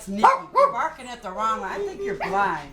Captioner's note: dog barking